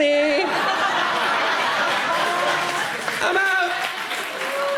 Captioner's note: laughter erupts